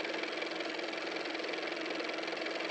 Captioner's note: car motor